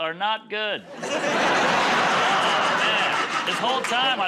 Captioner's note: laughter